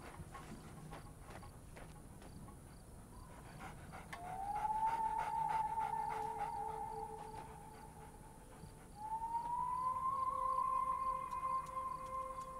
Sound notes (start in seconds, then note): 3.6 coyote panting; 4.2 eerie music playing